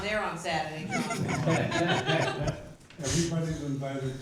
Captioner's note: laughter